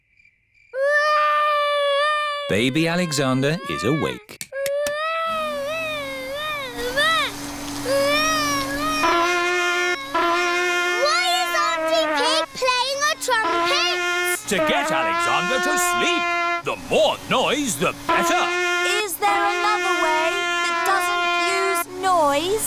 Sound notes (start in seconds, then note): 0.8 baby alexander crying; 5.3 vacuum cleaner whirring; 8.8 trumpet blowing